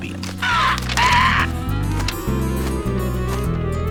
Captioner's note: cawing